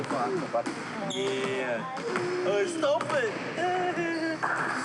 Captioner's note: laughs